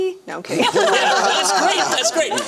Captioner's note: laughter